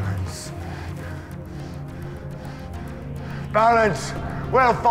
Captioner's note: leader pants loudly